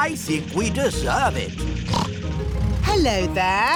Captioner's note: snorts